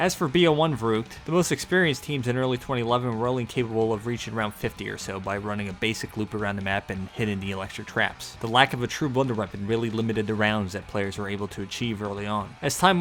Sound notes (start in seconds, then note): none